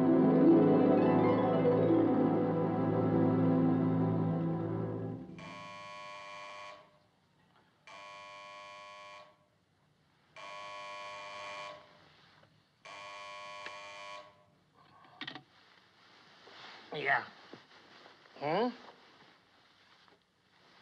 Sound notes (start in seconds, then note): 5.4 phone Buzzing